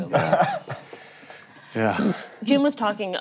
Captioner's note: laughing